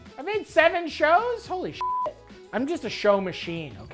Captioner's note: beep